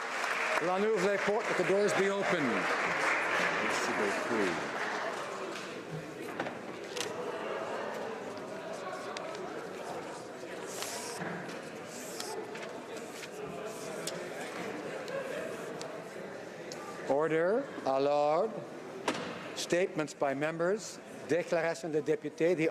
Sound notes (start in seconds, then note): 0.0 applause; 4.8 speaking French